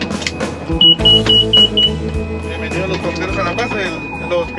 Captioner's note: airplane beeping